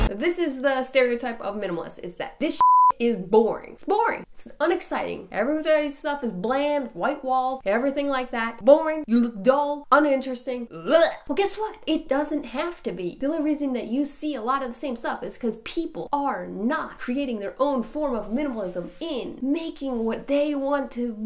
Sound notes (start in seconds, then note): 2.6 beep